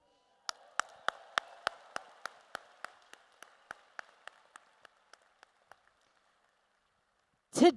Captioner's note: applause